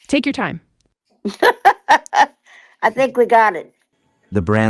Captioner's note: laughs